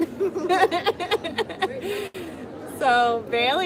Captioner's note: laughter